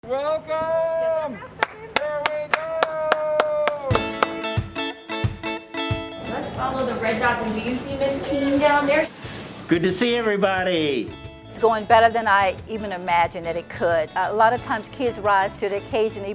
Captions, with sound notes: - Welcome! There we go! (clapping) (upbeat music) - Let's follow the red dots. And do you see Ms. King down there? - Good to see everybody. - It's going better than I even imagined that it could. A lot of times kids rise to the occasion,